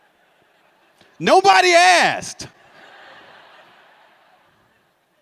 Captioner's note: laughter